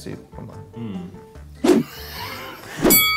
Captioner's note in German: woosh